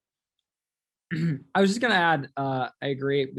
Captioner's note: clear throat